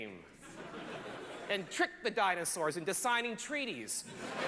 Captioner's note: laughter